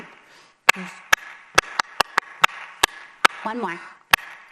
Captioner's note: clapping to the rhythm